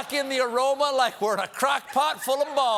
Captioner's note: applause; laughter